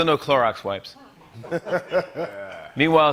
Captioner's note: laughter